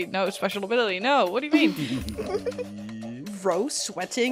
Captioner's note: laughter